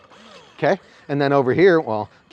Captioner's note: TFX 3 Hopper whirring